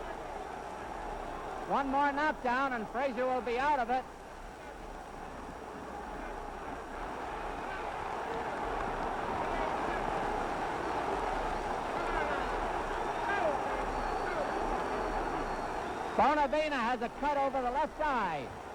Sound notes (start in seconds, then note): 4.7 crowd cheers